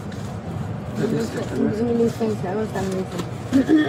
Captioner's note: speaking in foreign language